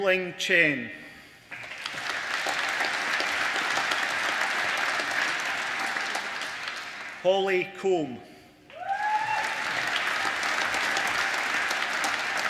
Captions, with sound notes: Yueling Chen (APPLAUSE) Holly Combe (APPLAUSE)